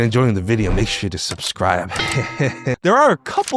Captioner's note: chuckles